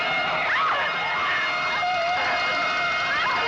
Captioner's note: screaming